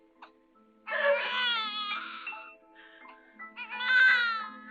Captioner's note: crying; screaming and crying